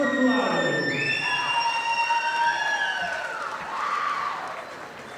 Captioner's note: audience applauding